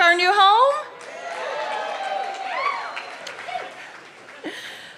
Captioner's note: cheering